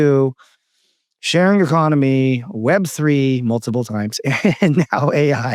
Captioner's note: laughs